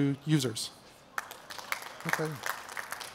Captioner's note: clapping